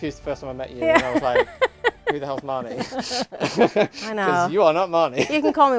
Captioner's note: they laugh